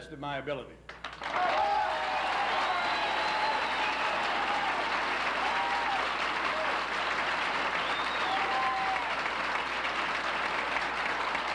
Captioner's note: applauses